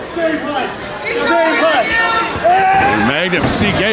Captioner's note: crowd shouting